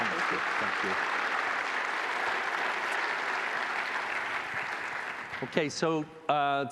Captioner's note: applause